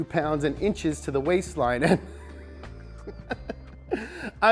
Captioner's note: laughs